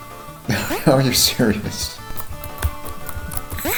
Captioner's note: chuckling